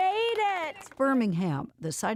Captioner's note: cheering and applause